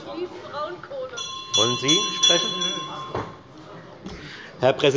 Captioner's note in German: Unruhe – Glockenzeichen des Präsidenten